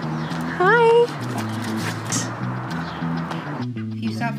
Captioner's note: dogs panting